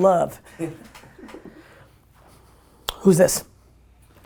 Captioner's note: laughs